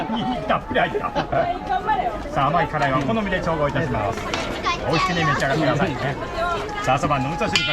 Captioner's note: laughs